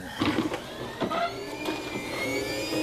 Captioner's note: slicer whirring